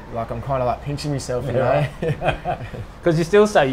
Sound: laughs

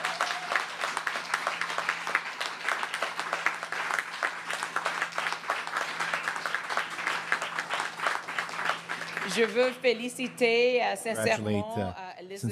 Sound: cheering and Applause

